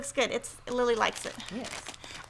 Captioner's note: plastic crinkling